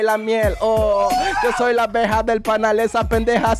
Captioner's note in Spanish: grita